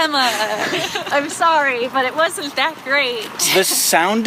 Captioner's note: laughs